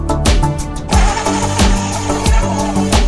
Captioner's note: blender sounds